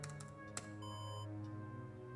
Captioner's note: alarm